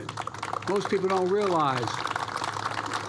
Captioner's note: applause